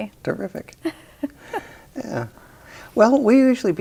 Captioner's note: both chuckle